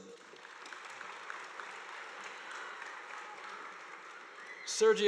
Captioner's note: audience applauding